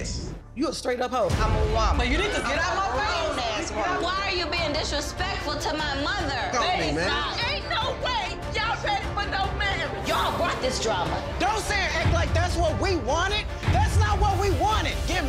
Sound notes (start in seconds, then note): none